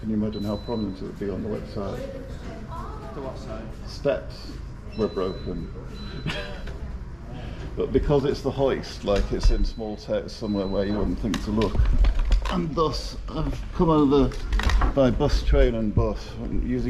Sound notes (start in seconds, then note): 6.2 laughs